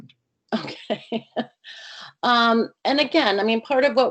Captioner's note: laughs